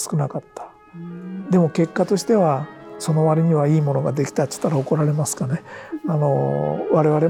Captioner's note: laughs